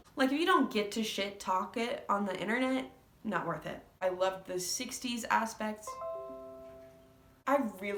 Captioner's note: computer chime